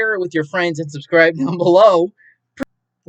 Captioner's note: laughs